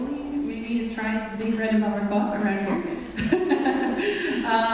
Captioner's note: laughs